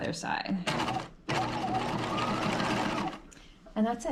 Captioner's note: sewing machine whirring